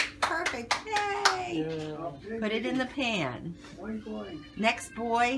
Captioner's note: clapping